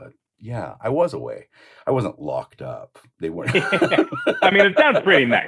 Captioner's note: laughter